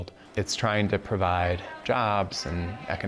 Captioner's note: background chattering